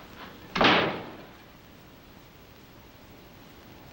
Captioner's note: door slamming